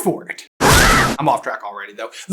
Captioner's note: screams